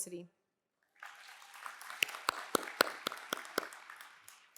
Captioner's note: applause